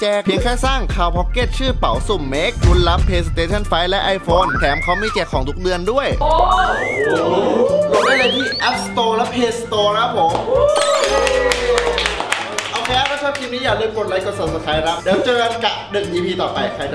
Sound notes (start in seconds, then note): 10.3 cheering; 10.8 applauding